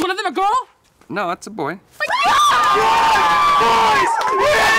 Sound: screaming and yelling

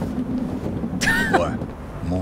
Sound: scoffs

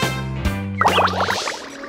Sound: seal barking

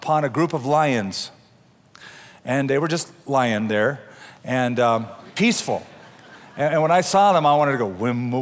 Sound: laughter

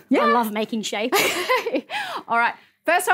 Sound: laughs

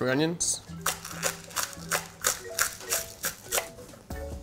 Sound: onions crunching

